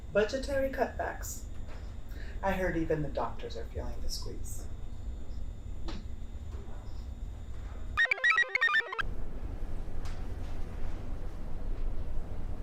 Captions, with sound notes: - Budgetary cutbacks. I heard even the doctors are feeling the squeeze. (computer chirps)